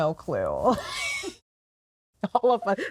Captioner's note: laughs